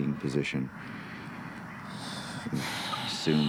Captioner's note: exhales